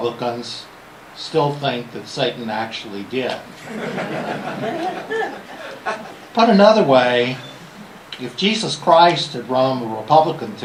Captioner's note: laughter